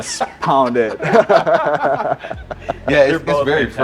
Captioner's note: all laughing